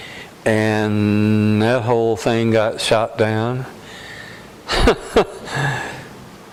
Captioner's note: laughter